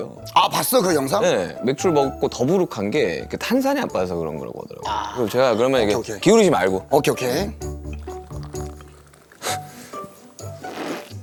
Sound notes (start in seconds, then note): 7.9 glug, glug, glug; 10.2 slurp